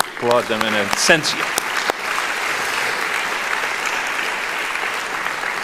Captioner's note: applauding